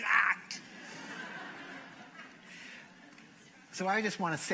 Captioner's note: laughter